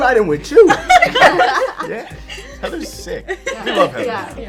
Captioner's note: all laughing